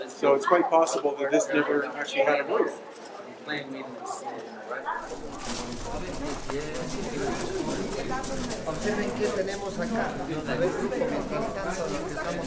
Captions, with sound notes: so it's quite possible that this never actually had a roof. (visitors chattering indistinctly) (visitors speaking Spanish)